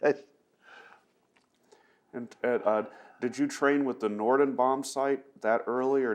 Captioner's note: laughs